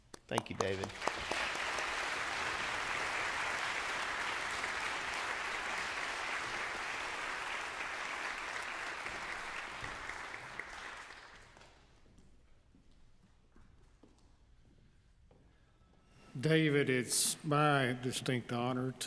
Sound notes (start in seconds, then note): 1.6 congregation clapping